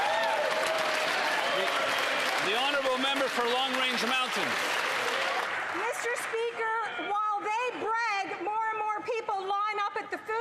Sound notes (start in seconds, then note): 6.3 some Applause